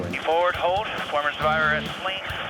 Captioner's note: man On Radio